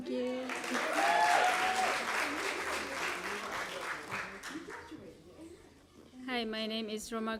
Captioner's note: applause